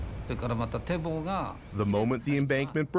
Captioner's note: speaking Japanese